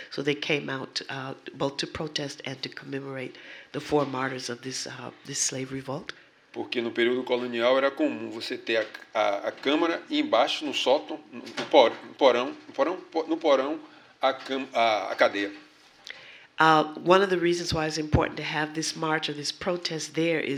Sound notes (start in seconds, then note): 11.7 speaking portuguese